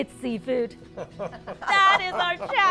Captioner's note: laughs